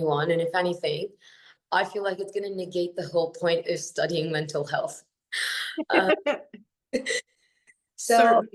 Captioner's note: haha